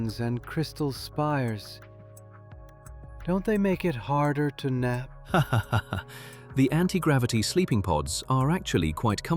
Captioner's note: laughs